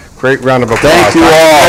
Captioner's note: applause